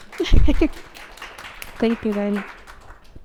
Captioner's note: audience applauding